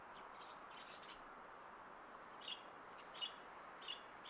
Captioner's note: birds chirping